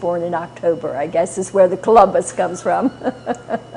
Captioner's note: laughter